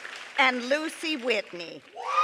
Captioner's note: applause